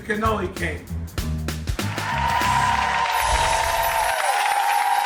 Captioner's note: audience cheering